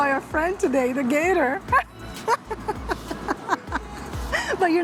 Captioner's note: laughs